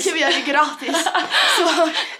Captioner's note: both laughing